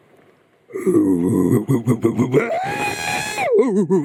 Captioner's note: grunting; screaming